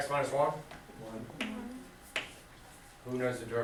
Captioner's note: voiceover